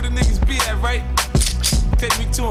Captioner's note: gun cocks